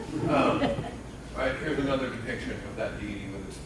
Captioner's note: laughing